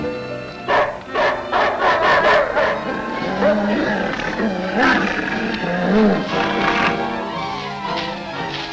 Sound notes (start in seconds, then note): 0.5 dramatic music; 0.6 Devil barking